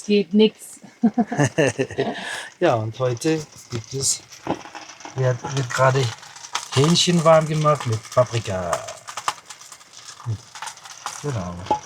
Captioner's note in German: gelächter